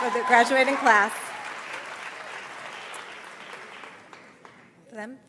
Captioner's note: audience applauds